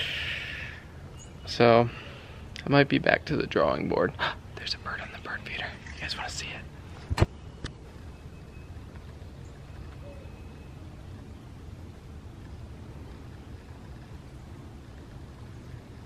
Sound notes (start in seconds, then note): 4.1 gasps; 4.9 whispers